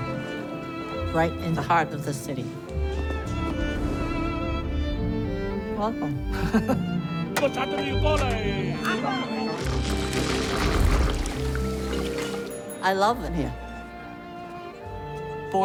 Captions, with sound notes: Right in the heart of the city. Welcome. [players chattering] [mahjong tiles clattering] I love it here.